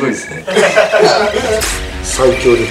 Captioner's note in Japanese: 笑い